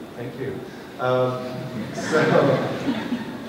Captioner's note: laughter